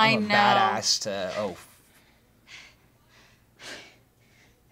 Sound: Ellie panting

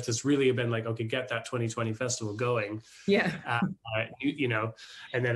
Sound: chuckles

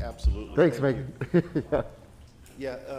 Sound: laughs

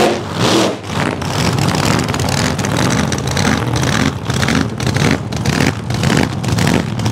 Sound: gasser rump, rump, rump rump sound

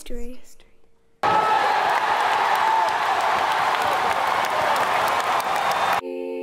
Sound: crowd cheering

